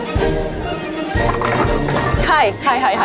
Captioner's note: playful music; coins clinking